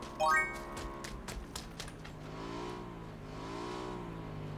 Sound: A motorbike coming from afar

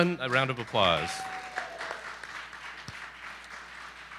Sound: applause

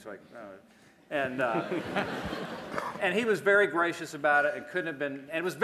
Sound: laughter

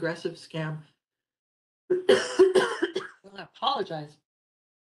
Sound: coughs

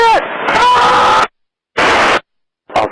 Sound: scream

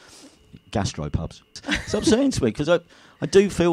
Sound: laughs

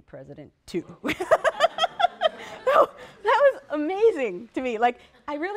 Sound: laughter/laughs

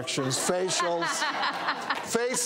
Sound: laughter

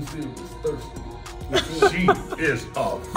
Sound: laugh

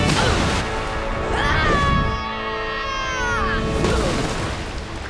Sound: screaming

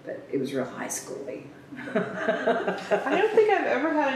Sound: laughs

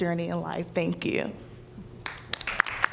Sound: applause

